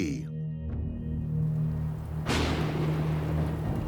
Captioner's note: thunderclap